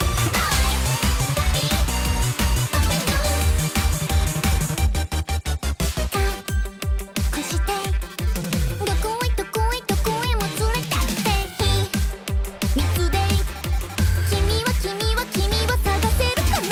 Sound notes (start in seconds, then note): 0.9 upbeat music; 6.0 speaking in foreign language; 13.9 upbeat music